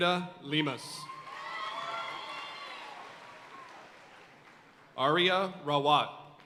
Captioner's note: audience cheering and applauding